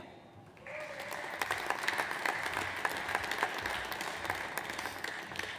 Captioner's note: audience applauds